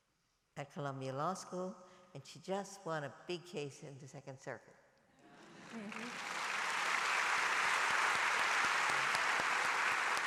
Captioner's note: applause